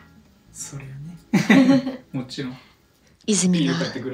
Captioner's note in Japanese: 笑い